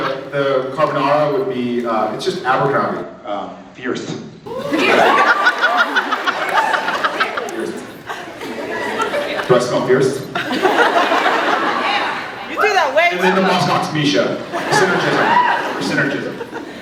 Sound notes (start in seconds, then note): 4.2 laughs, scattered cheers; 10.1 laughs; 14.9 laughs, scattered cheers